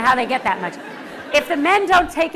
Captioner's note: laughter